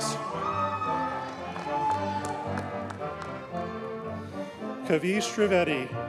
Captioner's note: audience cheers and applauds